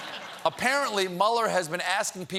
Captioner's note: laughter